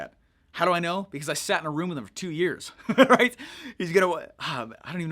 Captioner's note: laughs